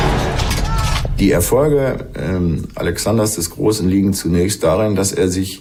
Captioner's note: in German